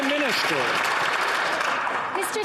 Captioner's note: some Applause